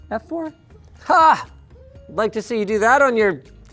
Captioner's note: exclaiming